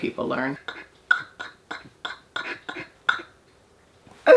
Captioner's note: laughing